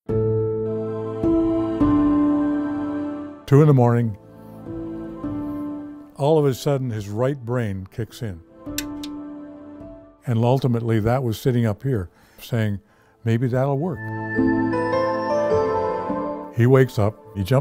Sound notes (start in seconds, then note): 0.2 haunting music; 8.7 light switch clicks; 13.2 soft music